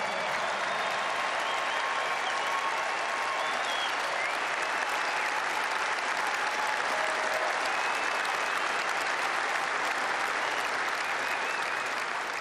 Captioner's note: applause